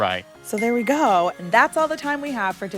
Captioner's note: bell chiming